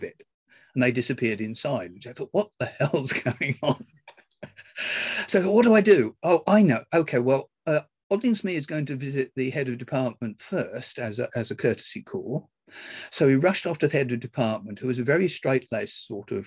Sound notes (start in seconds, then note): 3.1 laughs